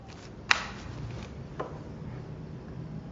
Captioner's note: clicks